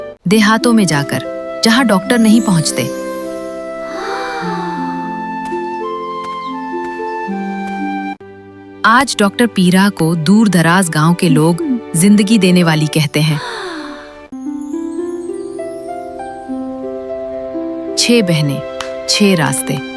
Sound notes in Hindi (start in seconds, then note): 3.8 अचानक ज़ोर से सांस लेने की आवाज़